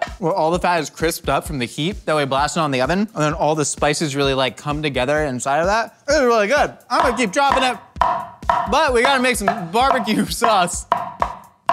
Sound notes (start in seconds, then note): 8.0 cleaver hitting chopping board